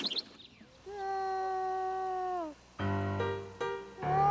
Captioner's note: crying out